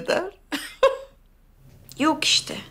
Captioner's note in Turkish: Gülme sesi